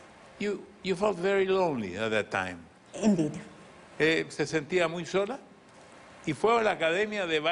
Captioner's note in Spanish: hablan en ingles